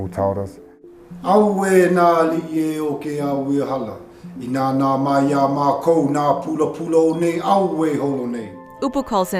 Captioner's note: chanting